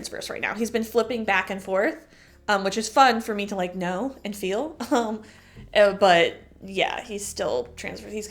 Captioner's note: chuckle